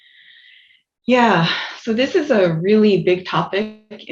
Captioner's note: exhales